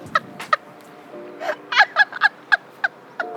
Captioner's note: laughing hysterically at her own terrible joke